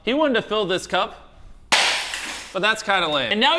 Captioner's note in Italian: Vetri infranti